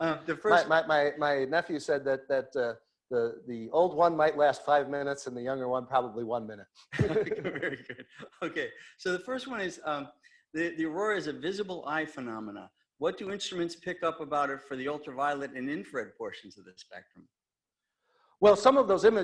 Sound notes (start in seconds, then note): 7.0 laughs